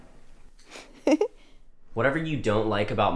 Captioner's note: laughs